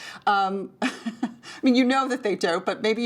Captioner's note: laughing